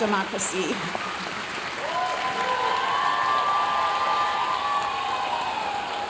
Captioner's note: audience cheering and applauding